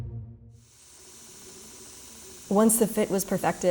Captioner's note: sander rasping